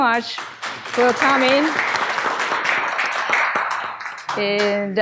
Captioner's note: audience applause